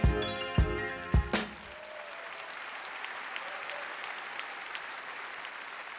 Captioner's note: applause